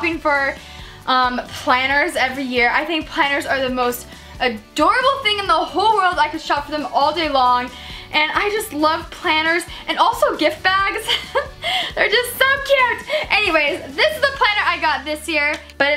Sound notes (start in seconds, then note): 11.0 laughs